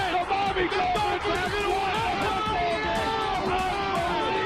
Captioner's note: commentators exclaiming